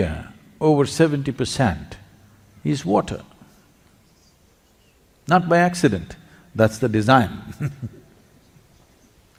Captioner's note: laughs